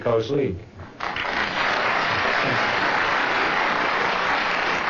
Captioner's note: audience clapping